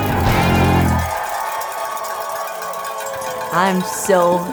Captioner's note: cow bells clang